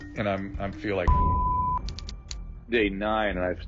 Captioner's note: beeping